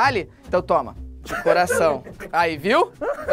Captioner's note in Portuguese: risadas